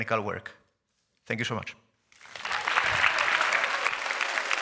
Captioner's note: applause